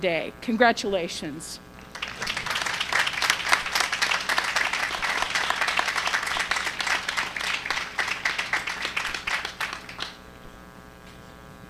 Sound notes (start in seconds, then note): 1.8 applause